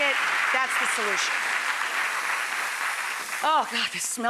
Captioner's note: audience applauds